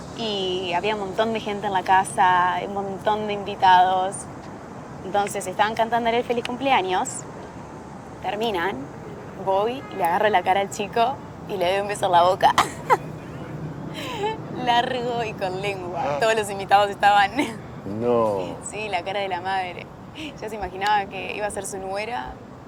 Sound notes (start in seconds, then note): 12.4 laughing; 17.2 laughing